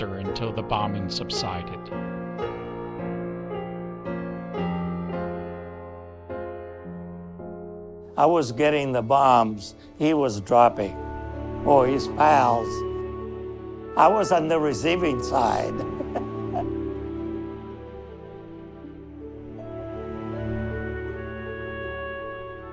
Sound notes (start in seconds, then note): 15.3 chuckling; 18.0 soft poignant music